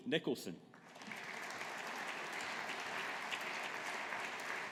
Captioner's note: audience applauding